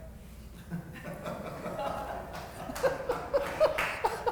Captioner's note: laughter